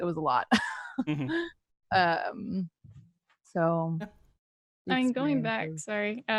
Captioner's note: laughs